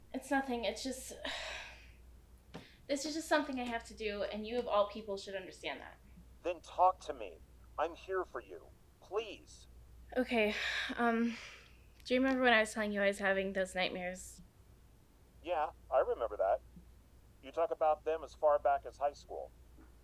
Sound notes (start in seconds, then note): 1.2 sighing